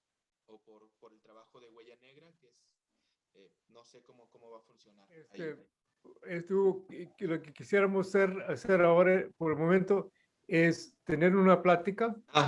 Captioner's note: non-english speech